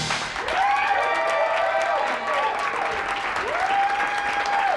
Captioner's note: cheering